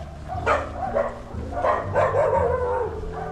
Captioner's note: wild dogs approaching